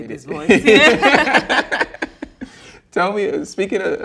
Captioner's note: both laughing